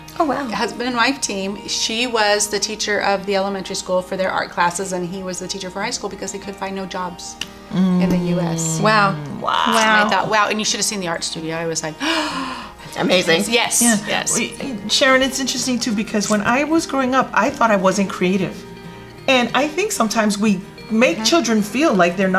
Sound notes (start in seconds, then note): 12.0 gasping in awe